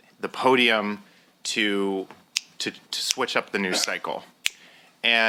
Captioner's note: snapping fingers